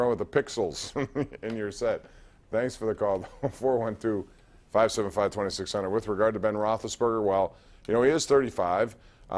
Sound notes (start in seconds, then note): 0.8 laughter